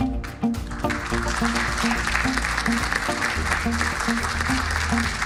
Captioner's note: subdued music; audience applauding